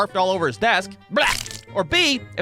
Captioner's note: blarp